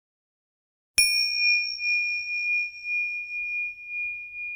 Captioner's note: bell chiming